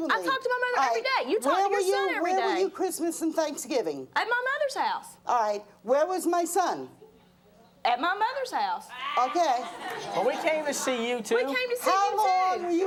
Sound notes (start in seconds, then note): 9.2 audience laughing